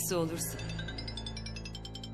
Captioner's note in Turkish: Telefon sesi